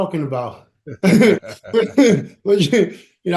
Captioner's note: chuckling